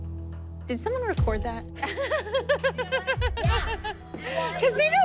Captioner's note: laughing